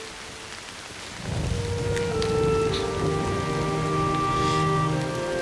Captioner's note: thunder rumbling